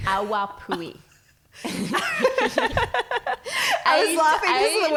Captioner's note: laughing